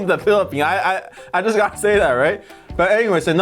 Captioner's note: laughs